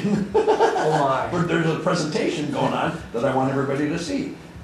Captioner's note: laughter